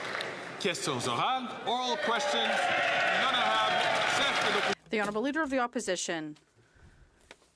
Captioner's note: some Applause